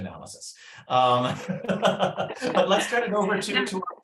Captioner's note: laughing